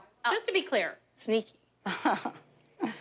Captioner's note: awkward chuckles